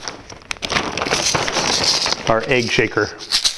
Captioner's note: bag rustling; rhythmic shaking